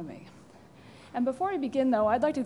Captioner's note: pause